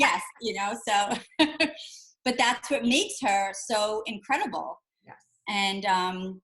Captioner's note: laughs